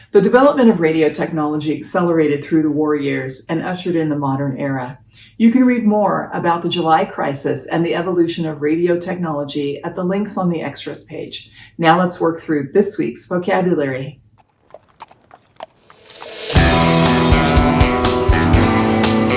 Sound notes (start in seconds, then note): 14.4 hooves clopping; 16.0 upbeat music